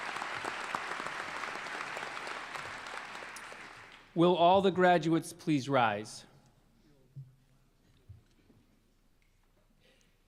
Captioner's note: applause